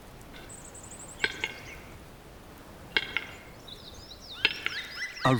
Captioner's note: bird makes clicking sound